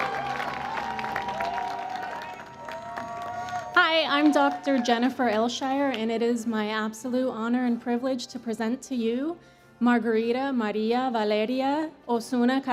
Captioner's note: cheers and Applause